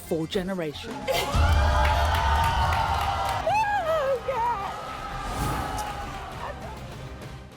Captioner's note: audience cheering; yelling